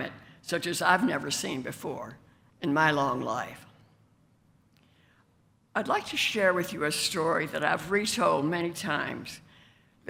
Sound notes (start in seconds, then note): none